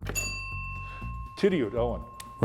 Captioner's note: bell ringing